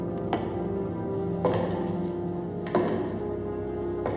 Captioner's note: footsteps continue